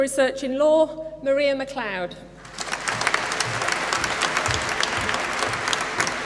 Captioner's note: applause